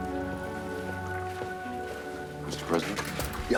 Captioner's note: footstep